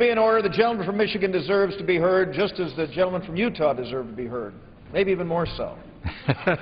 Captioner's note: laughter